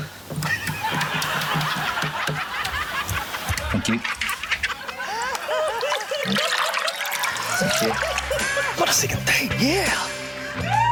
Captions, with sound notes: (LAUGHTER) - Thank you. - Thank you. - Got a second date. Yeah!